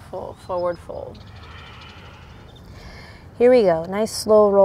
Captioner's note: blows out breath